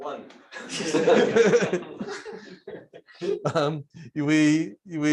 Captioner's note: laughter